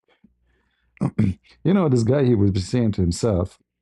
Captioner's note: berdehem